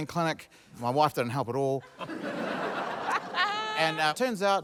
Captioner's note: laughter